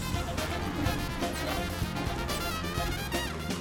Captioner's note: beeping